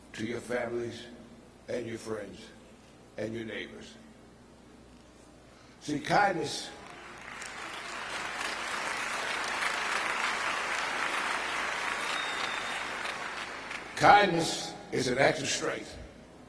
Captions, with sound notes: to your families and your friends and your neighbors. See kindness. (audience clapping) Kindness is an act of strength.